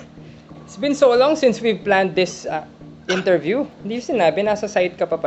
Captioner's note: coughs